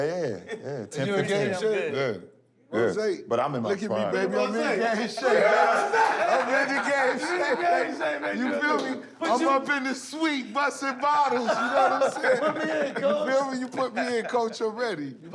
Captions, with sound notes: Yeah, yeah, 10, 15 games. Rozay, look at me, baby. I'm in game shape. [laughter] Look at the game shape, baby. You feel me? I'm up in this suite, bustin' bottles. You know what I'm saying? - Put me in, Coach. - You feel me? Put me in, Coach, already.